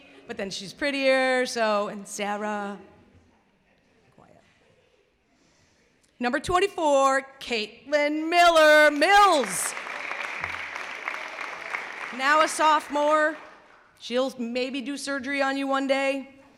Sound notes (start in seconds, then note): 4.1 laughter; 8.8 clapping